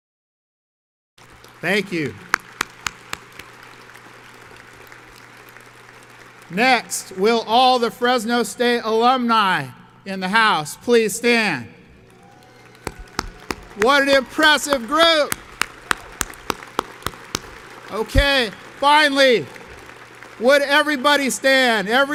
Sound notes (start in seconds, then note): 1.2 audience applauds; 11.9 audience claps and cheers